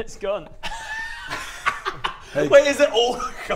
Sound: unsympathetic laughter

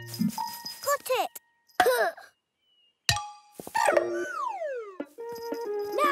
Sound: sigh of effort

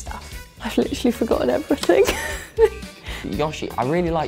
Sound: laughs

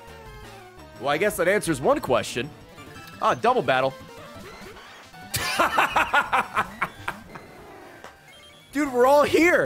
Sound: laughs

